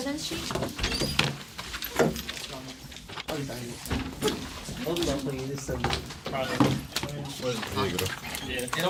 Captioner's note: students murmur